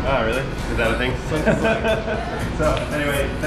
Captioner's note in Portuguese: risos